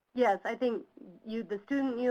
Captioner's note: voiceover